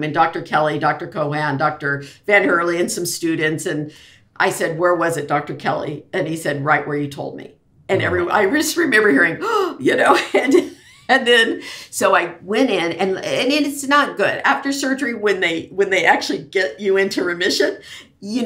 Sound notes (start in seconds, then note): 10.7 laughs